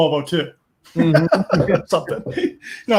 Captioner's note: laughter